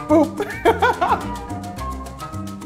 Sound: laughter

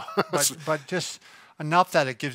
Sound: laughs

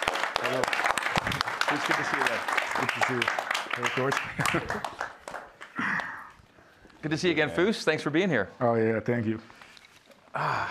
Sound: cheers and applause

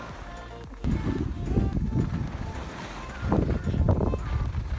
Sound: wind blowing

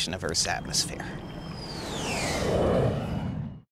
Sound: jet engine roaring

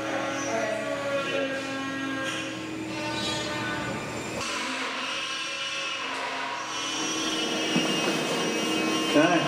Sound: saw buzzing

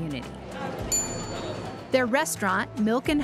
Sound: ding

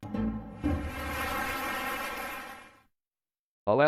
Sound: applause

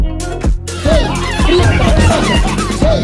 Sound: laughter

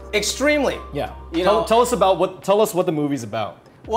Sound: none

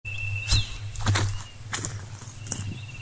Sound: footsteps

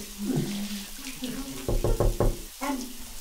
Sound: tapping

